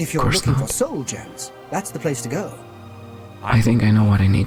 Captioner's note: NPCs chatting